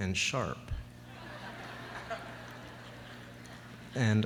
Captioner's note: laughter